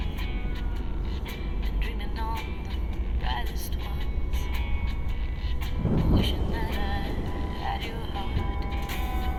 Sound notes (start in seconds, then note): 3.8 rolling thunder; 8.8 a song plays on the car radio